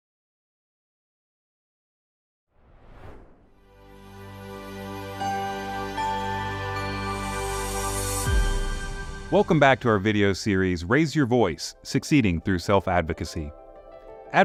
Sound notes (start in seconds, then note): 2.6 air whooshes; 3.8 chiming music